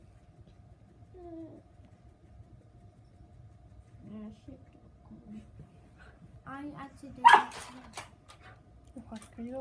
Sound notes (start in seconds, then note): 7.2 dog barks